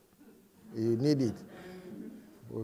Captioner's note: laughter